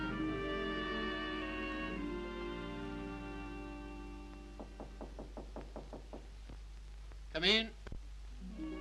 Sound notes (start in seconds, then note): 4.6 knocks